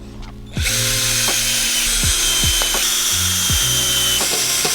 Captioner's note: drill whirring